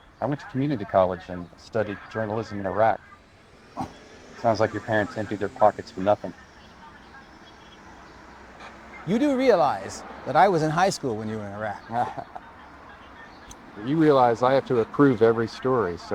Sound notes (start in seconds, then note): 3.6 David scoffing; 12.1 TJ laughing